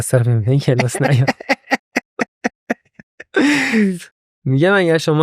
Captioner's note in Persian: خنده